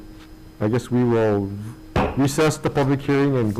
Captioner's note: gavel pounding